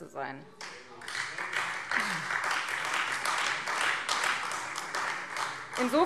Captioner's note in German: Beifall Freie Demokraten und vereinzelt AfD